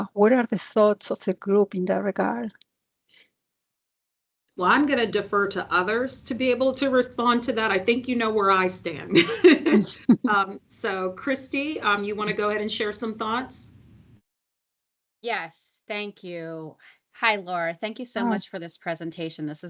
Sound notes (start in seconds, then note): 9.1 laughs